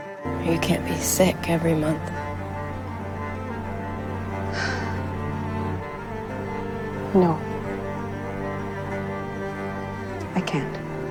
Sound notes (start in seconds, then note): 4.3 Grace sighs offscreen